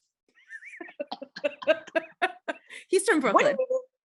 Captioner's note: laughing